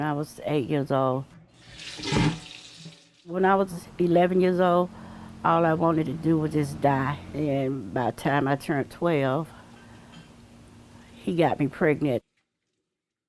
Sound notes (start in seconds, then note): 1.5 water runs